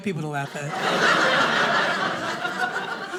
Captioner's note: audience laughing